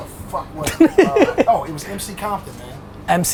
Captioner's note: Gary laughs